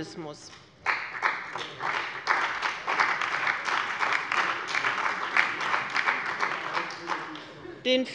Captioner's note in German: Beifall bei dem BÜNDNIS 90/DIE GRÜNEN und der CDU